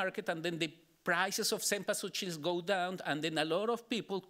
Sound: speaking Spanish

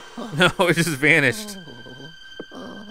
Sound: voiceover

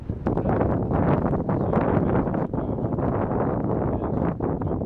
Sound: wind noise obscuring voice

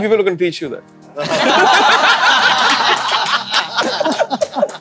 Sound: all laughing

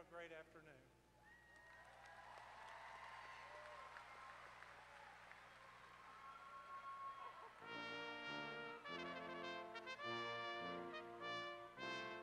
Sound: applause

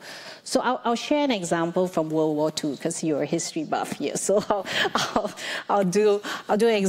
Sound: laughs

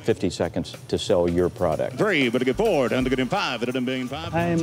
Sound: auctioneers calling

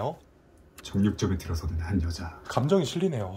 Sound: recorded narration

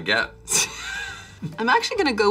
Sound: Charlize laughs

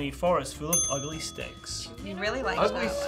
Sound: bell dings

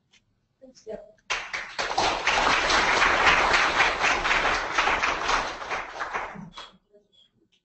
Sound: applause

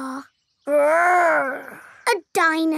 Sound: growls

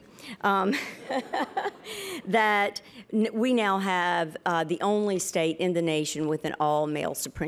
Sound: laughs

